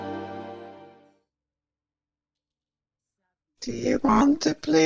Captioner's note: silence